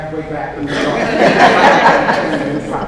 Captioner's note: audience laughs